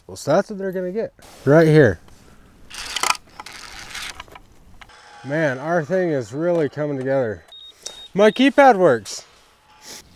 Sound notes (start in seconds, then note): 3.0 drill whirring; 7.4 keypad beeping